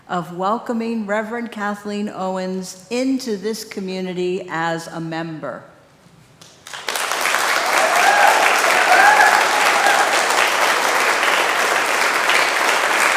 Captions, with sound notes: of welcoming Reverend Kathleen Owens into this community as a member. (congregation clapping)